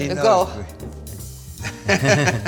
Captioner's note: gary and scott chuckle